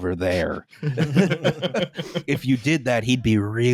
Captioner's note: laughter